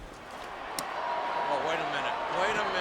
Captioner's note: crowd cheering